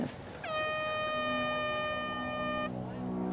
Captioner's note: contest horn